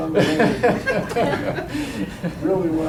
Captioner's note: students laugh